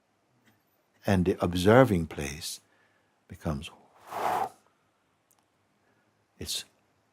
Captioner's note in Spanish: exhala profundamente